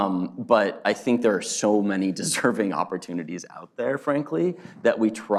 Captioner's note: laughs